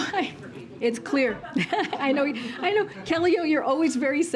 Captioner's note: laughter